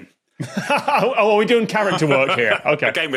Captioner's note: laughs